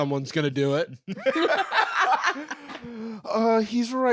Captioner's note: laugh